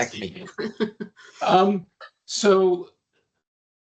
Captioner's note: chuckling